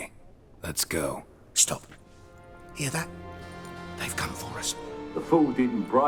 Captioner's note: hushed